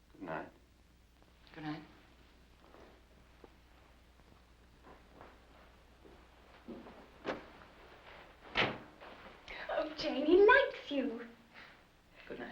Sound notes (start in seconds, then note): 8.5 door closes